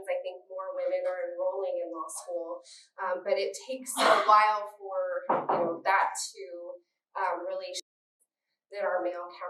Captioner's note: audio skip